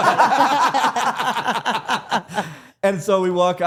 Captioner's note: all laughing